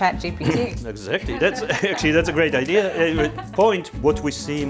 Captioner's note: laughs